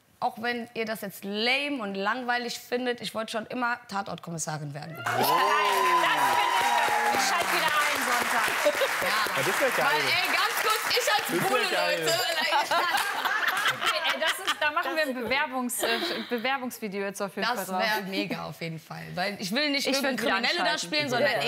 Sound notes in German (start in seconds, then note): 5.2 Jubel, Applaus; 12.1 Gelächter